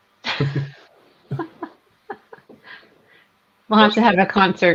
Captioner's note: group laughs